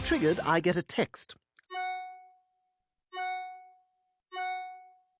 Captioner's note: dinging repeatedly